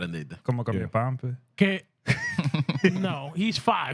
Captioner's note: laughter; speaking Spanish